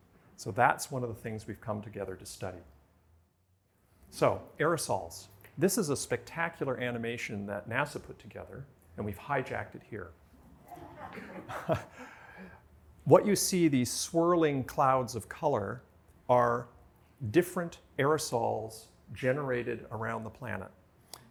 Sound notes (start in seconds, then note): 10.6 laughter